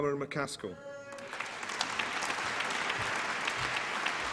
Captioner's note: applause